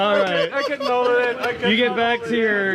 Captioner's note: laughs